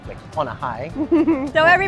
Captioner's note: giggles